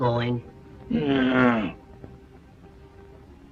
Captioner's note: grunt